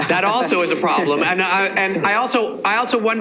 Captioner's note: laughing